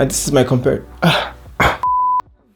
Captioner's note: coughs